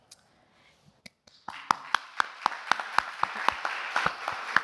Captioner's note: applause